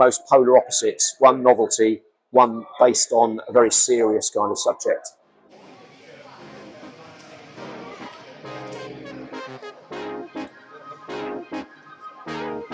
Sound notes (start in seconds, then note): 6.3 # upbeat music #; 6.5 background chatter